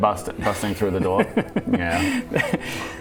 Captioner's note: impish laugh